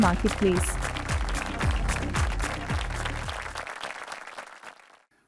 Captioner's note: audience applauding